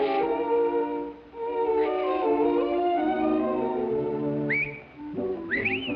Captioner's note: blowing sound; whistling